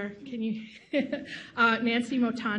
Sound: chuckles softly

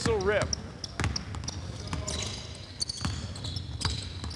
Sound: shoes squeaking

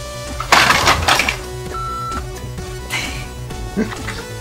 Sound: upbeat music; objects crashing; laughs

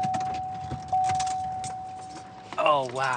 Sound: car beeping

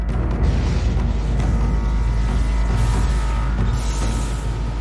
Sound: electricity humming

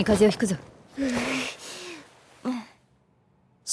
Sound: shudders

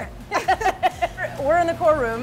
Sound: laughing

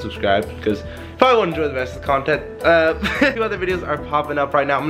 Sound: laughs

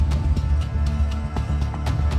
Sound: none

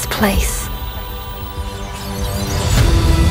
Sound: audio glitching; heroic Music

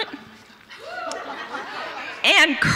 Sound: audience members hoot

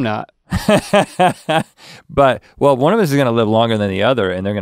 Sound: laughs

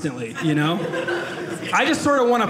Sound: audience laughing

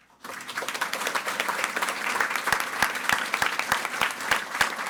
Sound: audience applauding

